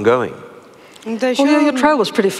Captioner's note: foreign Language